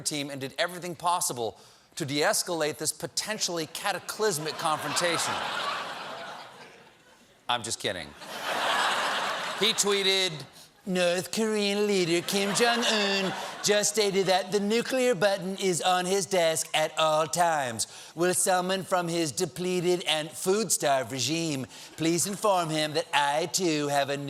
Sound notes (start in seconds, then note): 8.1 laughter